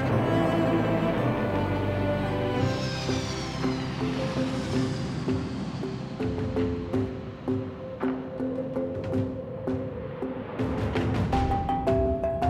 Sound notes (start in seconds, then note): 0.9 jet engines; 2.5 airplane landing